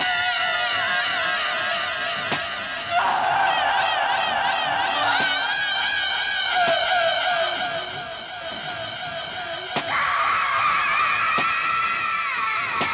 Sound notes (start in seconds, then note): 0.0 screaming continues, echoing; 9.8 screaming